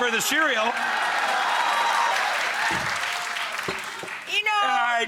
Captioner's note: audience clapping